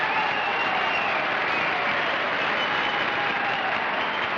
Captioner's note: applause